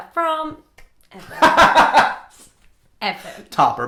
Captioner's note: laughing